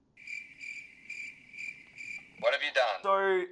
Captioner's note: crickets sound